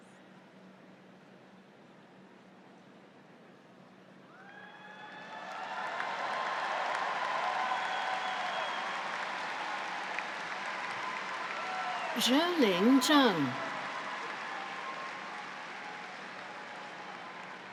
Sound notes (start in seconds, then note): 4.6 audience cheers; 14.2 audience applauds